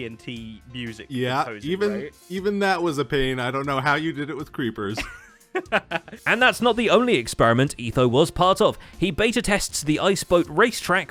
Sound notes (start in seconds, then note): 5.5 laughs